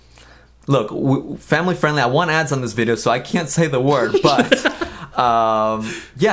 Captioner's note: laughs